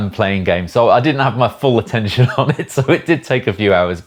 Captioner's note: laughs